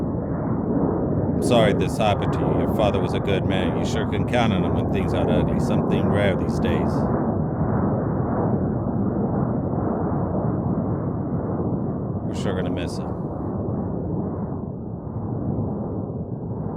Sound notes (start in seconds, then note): 8.2 wind howling continues